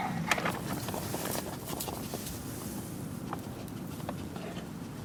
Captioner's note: dogs sniffing